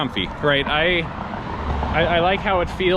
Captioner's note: car engine roaring